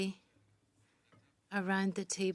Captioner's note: speaking French